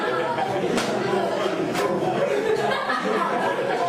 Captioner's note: laughter